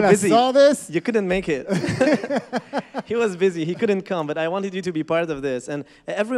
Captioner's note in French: rires